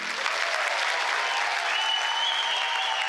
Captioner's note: cheers